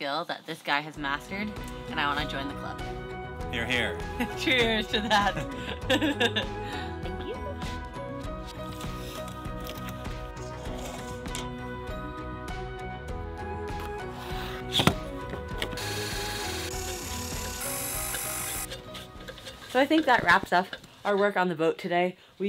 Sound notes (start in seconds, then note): 5.0 laughs; 8.5 inspiring music; 15.7 saw buzzing